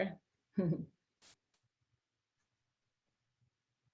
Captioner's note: chuckles